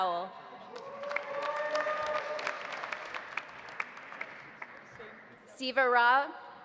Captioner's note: audience applauding; audience cheering